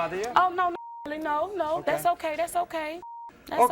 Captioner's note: beep